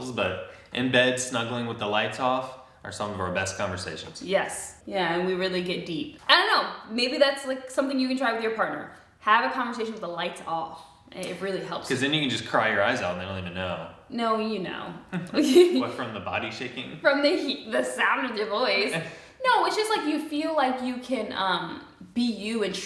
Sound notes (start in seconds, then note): 15.1 both laugh; 18.9 chuckles